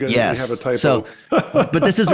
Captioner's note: chuckles